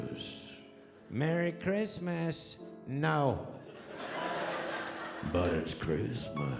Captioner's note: audience laughing